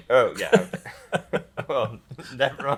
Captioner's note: pair laughs